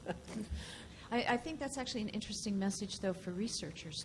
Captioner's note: voiceover